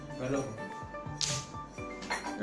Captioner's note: smack